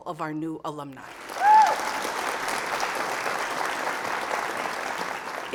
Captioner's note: audience applauds